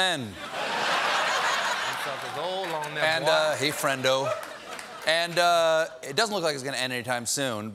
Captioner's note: laughter